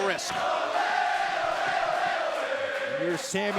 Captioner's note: crowd cheering